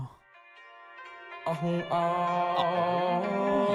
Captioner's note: Tum chanting Metry